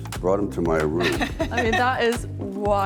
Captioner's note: laughing